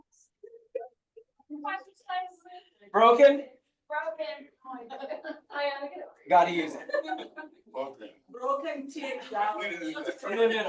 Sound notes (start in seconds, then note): 4.8 people laughing; 6.2 people chattering distantly; 6.4 people laughing; 8.8 people chattering distantly